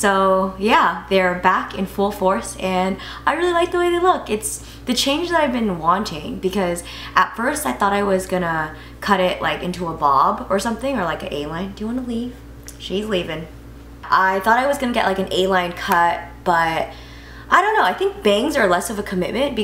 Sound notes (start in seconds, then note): none